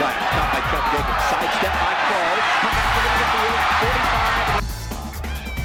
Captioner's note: cheering